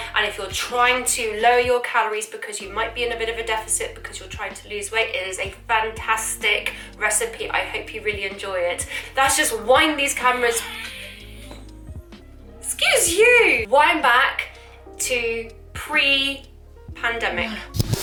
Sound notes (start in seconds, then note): 11.7 dog wheezes